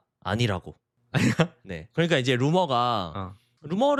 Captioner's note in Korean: 웃음